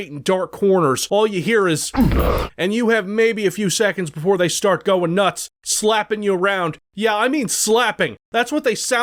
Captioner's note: Spawn wake noise